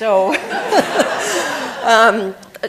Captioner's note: laughter